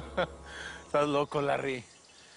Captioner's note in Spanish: Risas